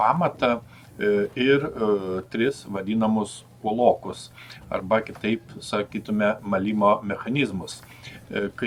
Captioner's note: grinding mechanisms